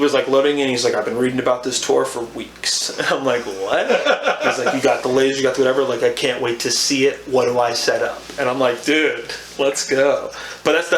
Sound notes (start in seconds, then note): 3.6 laughs